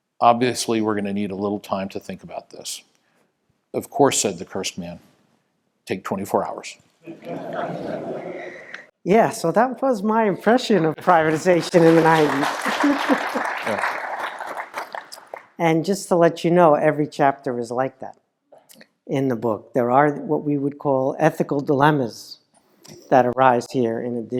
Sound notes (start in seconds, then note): 7.0 laugh; 10.9 laugh; 14.1 applause